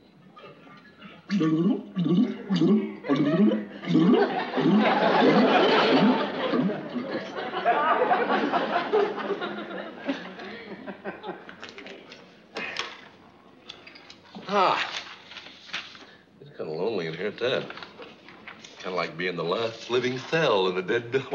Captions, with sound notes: [BUBBLES] Ah, it is kind of lonely in here. Kind of like being the last living cell in a dead--